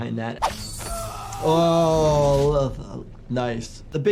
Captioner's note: fighter screaming